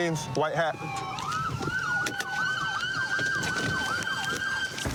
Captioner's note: siren wailing